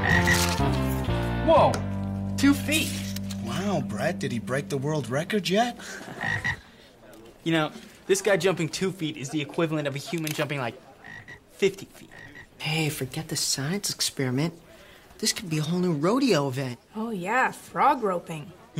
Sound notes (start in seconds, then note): 0.0 frog croaking; 5.8 Brett laughs; 6.1 frog croaking